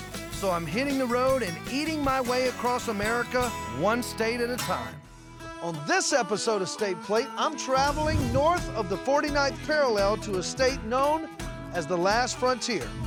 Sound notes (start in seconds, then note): none